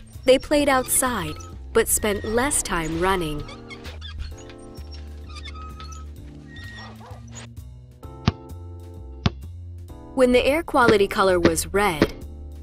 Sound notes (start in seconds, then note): 8.2 ball bouncing